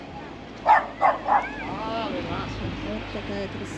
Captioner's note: dog barking